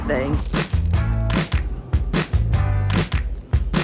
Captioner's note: plastic rustles